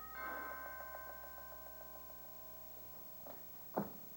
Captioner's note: doorbell rings